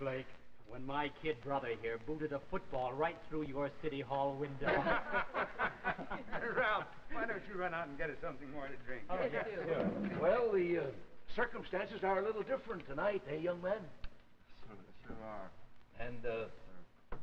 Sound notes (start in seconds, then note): 4.6 laughter; 9.7 chair scraping back